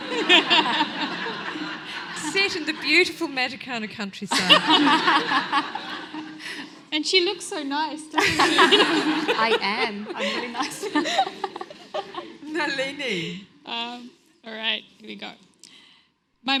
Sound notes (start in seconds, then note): 0.0 audience laughs; 4.3 everyone laughs